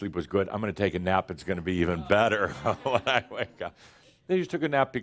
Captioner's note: some chuckles